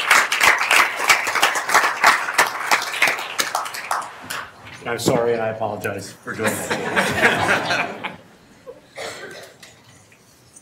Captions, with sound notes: And I'm sorry, I apologize for doing this. (everyone laughing)